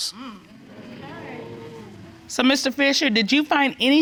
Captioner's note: crowd gasping